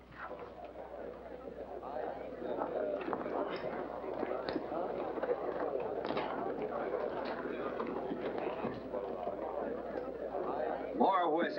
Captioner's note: background chatter